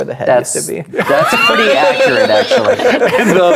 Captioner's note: players laughing